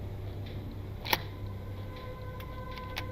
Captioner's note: door unlocks